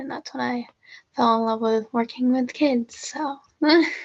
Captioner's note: laughter